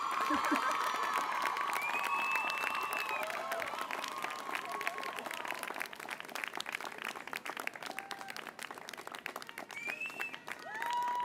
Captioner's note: applause